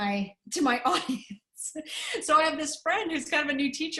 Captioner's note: laughter